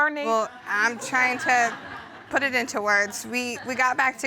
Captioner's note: audience laughs